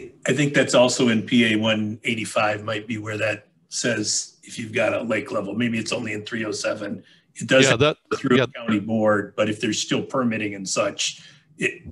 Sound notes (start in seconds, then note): 7.5 mic cracking